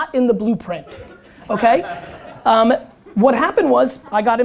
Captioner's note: audience laughter